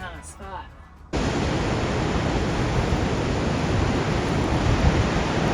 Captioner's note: waves crashing